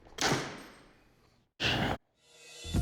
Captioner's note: whispers